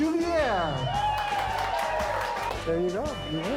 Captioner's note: cheering